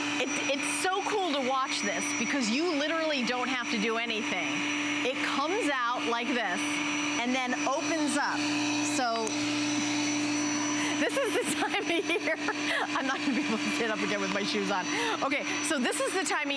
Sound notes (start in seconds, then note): 11.0 laughter